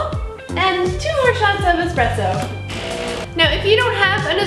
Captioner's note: machine whirring